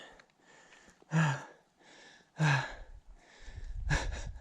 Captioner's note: heavy breathing; laughing